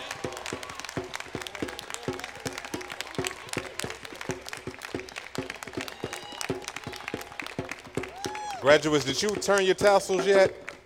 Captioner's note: applause